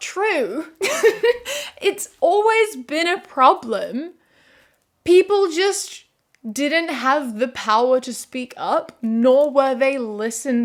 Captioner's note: laughs